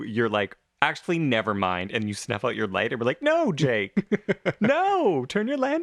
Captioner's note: laugh